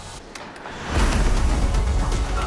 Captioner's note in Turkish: Yumruk sesi